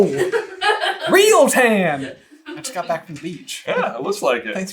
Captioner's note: laughing